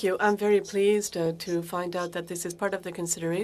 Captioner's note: speaking French